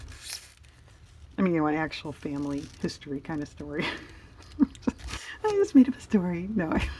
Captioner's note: laughs